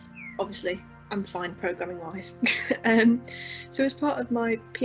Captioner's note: chuckles